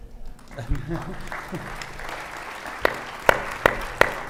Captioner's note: audience clapping